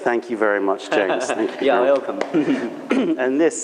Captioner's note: laughter